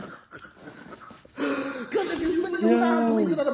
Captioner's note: laughing